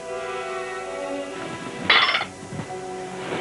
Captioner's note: silverware clattering